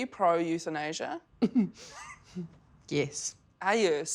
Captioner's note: chuckles